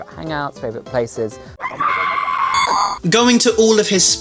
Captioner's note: inhumane screech